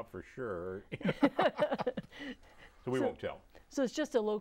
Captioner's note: laughing